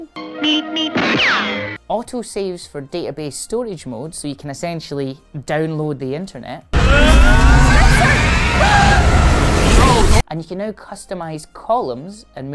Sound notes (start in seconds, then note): 6.7 yells